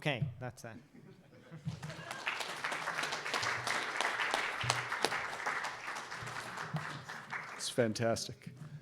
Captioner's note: applause